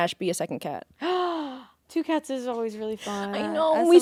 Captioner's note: gasps